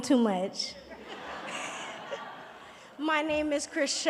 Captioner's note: audience laughing and cheering